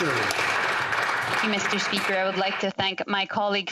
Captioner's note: some Applause